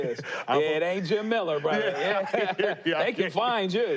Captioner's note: both laughing